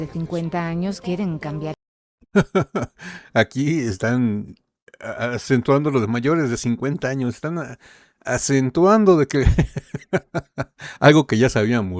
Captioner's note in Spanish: risas